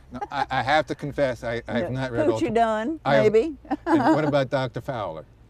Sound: laughter

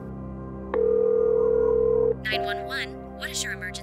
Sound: phone rings

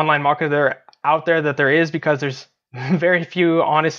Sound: chuckles

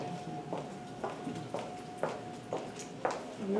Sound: footsteps

